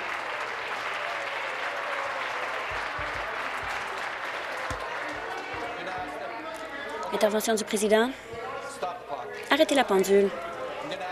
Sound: applause

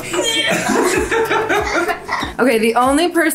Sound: laughing

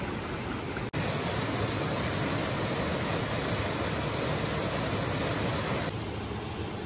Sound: waterfall sound

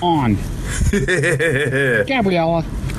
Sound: laughs

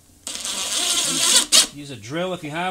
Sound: drill running

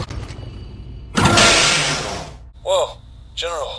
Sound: door open

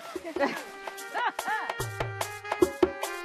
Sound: chuckles

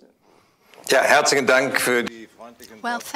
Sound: speaking german

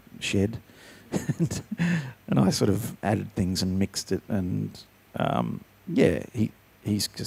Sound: chuckles

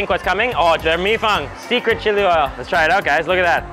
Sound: speaks Mandarin

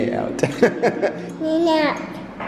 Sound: laughing

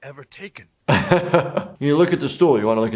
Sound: laughs

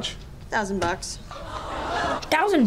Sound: gasps

